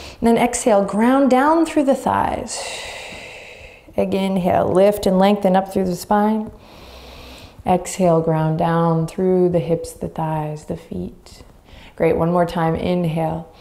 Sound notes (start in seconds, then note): 2.3 exhaling deeply; 6.6 inhaling deeply